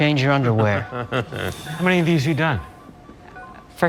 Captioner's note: laughs